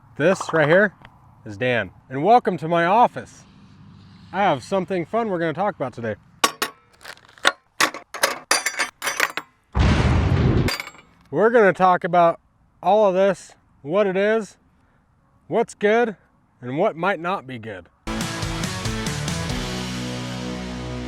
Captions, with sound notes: This right here is Dan. And welcome to my office. I have something fun, we're gonna talk about today. (nails clanking) (booming) We're gonna talk about all of this what it is, what's good, and what might not be good. (upbeat rock music)